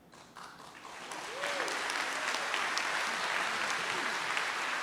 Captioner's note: audience applauds